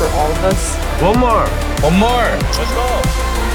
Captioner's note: buZz